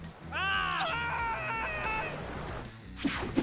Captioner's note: men yelling